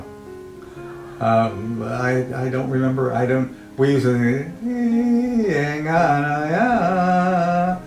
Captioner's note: humming a Korean folk song